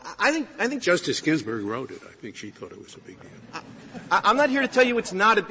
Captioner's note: laughter